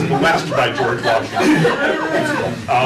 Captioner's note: laughter